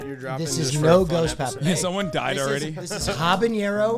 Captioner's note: laughs